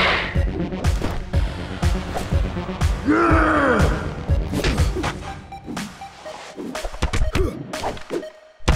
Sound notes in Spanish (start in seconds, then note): 3.0 Coach gruñe